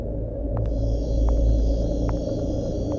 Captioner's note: Foot stepes